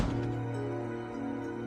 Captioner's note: slams door